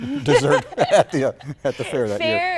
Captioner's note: laughter